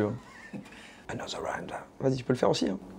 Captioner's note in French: chuchote